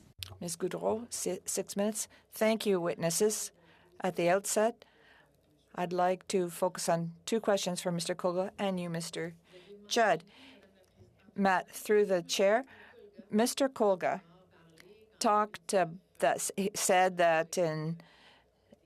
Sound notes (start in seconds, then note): 7.0 speaking French